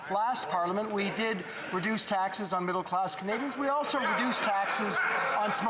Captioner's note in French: voix de l'interprète